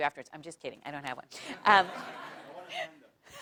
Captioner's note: laugh